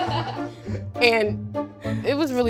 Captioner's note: girls laughing